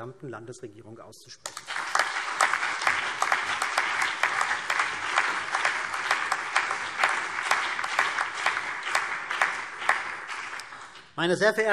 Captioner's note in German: Beifall CDU und BÜNDNIS 90/DIE GRÜNEN